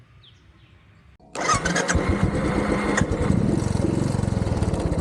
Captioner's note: engine starting